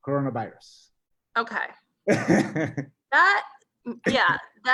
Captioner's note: laughs